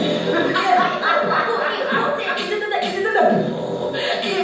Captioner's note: beatboxing